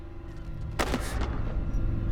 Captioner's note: books thudding